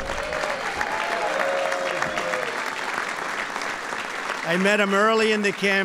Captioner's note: applause